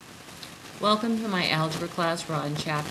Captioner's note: voiceover